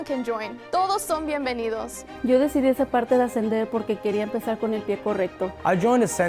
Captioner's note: students speaking in foreign language